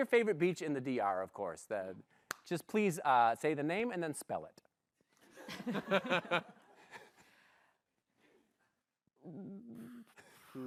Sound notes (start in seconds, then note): 5.3 laughter